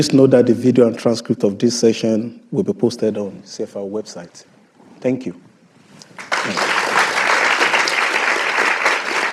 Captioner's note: applause